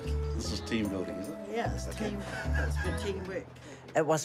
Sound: chuckles

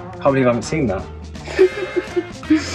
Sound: laughing

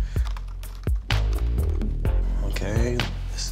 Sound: keys clicking

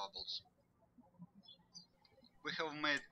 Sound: birds chirping

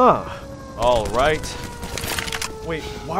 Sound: gunfire

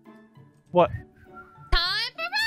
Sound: whistles

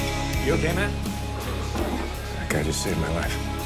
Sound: sighs

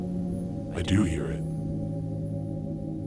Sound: low Voice

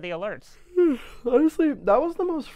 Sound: yawns

